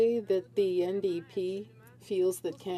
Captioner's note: speaking french